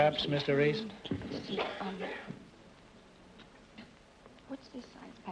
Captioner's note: whispering